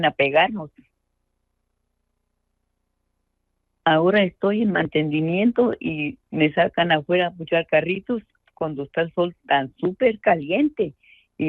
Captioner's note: speaking in Spanish